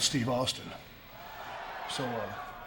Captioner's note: audience cheering